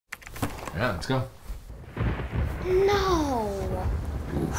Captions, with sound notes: - Yeah, let's go. (thunder booms) - No.